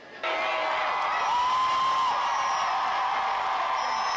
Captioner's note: massive cheering